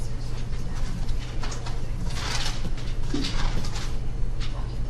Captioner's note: papers rustling